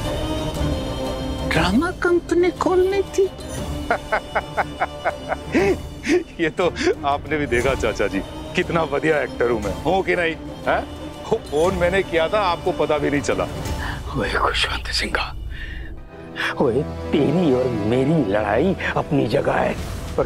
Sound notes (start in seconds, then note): 3.8 laughing